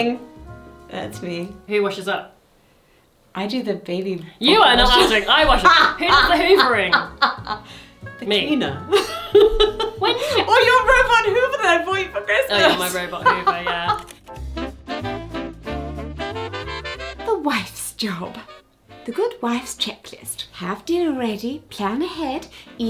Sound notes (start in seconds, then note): 9.9 laughs; 15.9 buoyant music